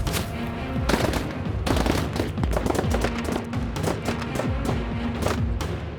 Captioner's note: gun shots